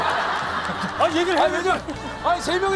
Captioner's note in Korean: 푸핫